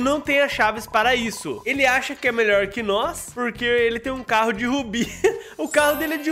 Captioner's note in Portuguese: risos